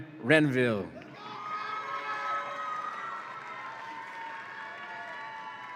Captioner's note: audience applauds and cheers